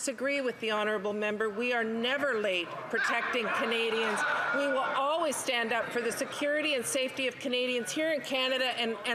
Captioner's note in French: voix de l'interprète